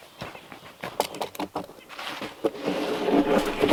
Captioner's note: tongs clanking; log scraping